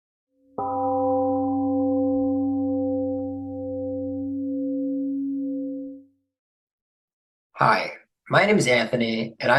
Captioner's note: temple gong rings and fades